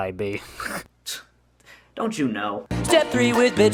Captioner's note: snickers; scoffs